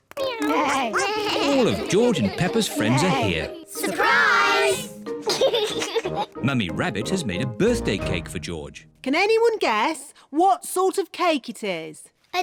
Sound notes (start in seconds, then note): 0.3 all making animal sounds; 5.2 laughs